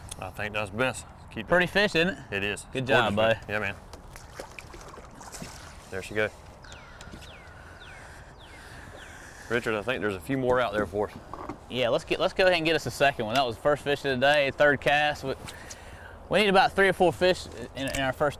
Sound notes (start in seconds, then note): 6.5 bird chirping